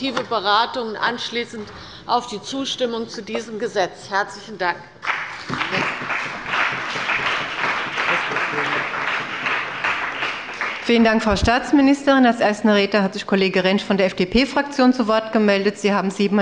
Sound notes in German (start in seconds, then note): 5.0 Beifall bei der CDU und dem BÜNDNIS 90/DIE GRÜNEN